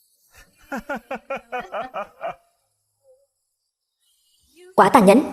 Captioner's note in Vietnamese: Tiếng cười